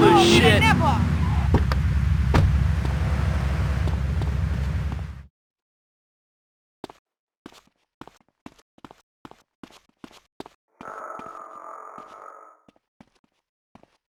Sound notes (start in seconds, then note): 6.4 exhales